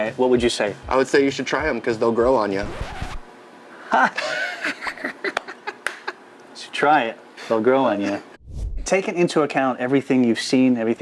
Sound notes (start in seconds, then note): 3.8 laughing